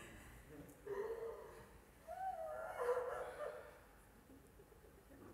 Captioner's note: sound of woman wailing